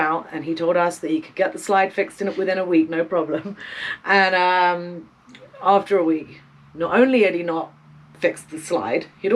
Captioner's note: chuckle